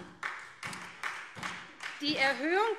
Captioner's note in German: Beifall SPD